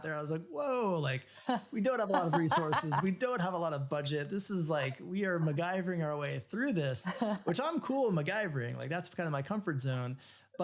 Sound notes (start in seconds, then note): 2.0 laughs